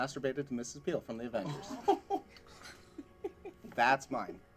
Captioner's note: laughing